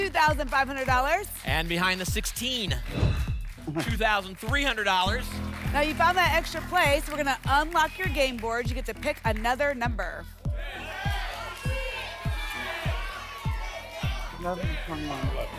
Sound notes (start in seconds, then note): 2.9 whoosh; 10.5 audience shouting numbers